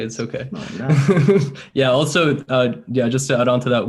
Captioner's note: laughs